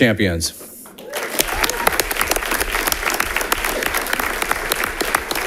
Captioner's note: audience applauding